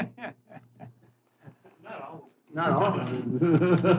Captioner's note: laughing